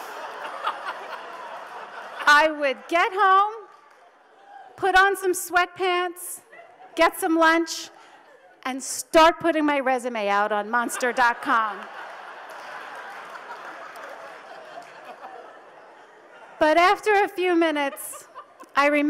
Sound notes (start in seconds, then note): 0.0 audience laughs; 10.6 audience laughs